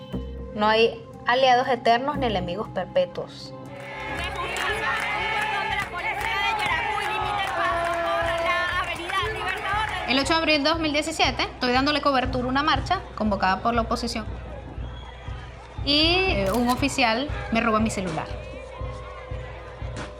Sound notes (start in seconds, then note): 3.7 crowd chanting, clapping